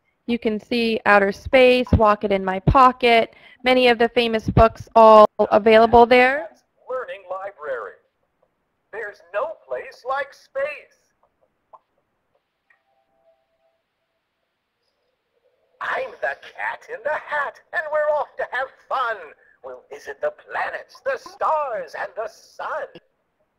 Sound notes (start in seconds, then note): 6.6 voiceover